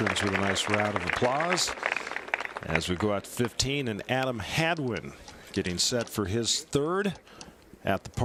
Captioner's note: applause